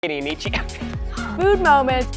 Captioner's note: laughs